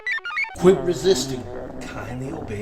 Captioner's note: computer chirps; Nev growls